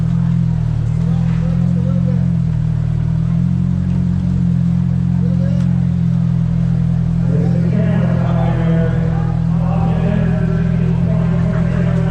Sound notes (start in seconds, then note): 0.0 crowd chattering